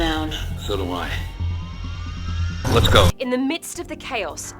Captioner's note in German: Voiceover